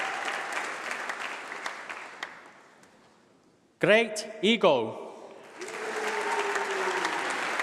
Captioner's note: applause